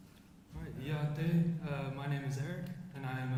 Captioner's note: speaks foreign language